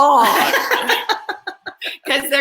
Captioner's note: laughs